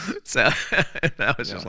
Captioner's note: laughing